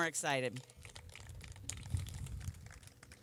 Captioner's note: applause